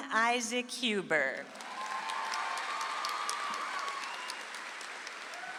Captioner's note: audience applauds